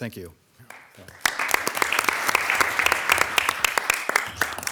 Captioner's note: all applauding